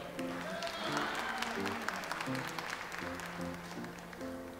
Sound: audience applauds

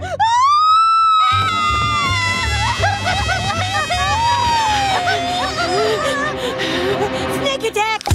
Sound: multiple screams

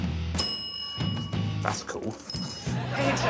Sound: bell dings

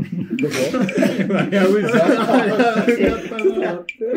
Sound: laughing

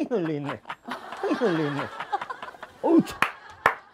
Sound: laughing

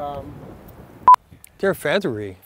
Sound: beep

